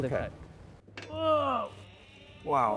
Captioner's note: groans